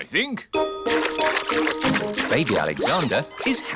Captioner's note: splashing